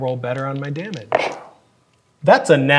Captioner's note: dice rolling